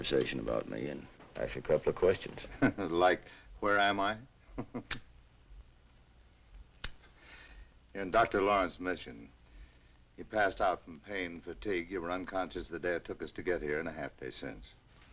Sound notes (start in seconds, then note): 4.5 chuckles; 4.5 Dan chuckles